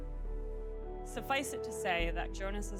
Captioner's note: reading